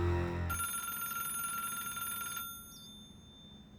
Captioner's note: phone rings